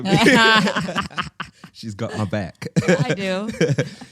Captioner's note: chuckles